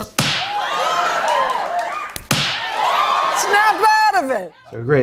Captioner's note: cheering